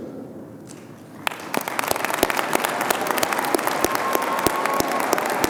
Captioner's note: audience applauding